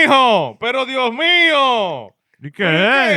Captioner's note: speaking In Foreign Language